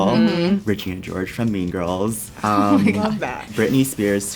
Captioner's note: laughs